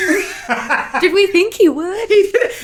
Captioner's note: laughing